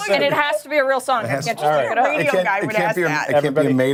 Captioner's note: laughter